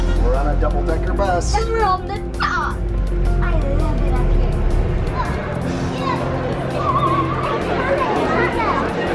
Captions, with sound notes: We're on a double decker bus. - And we're on the top! I love it up here. (crowd buzzing)